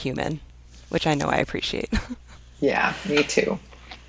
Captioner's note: laughs